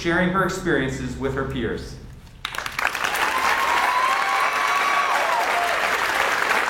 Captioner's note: audience cheers and applauds